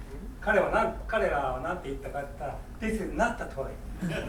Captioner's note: speaking in foreign language; laughing